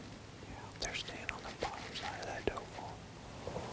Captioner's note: whispering